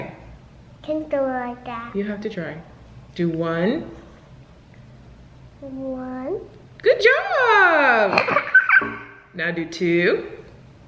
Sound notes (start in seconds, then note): 8.1 laughs